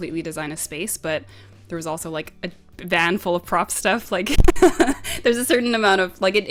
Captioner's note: laughs